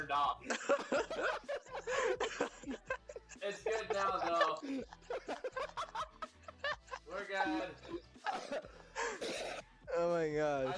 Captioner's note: laughter